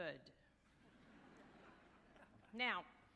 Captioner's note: audience laughing